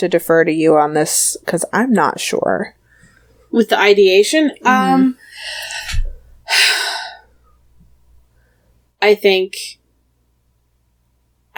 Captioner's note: sighs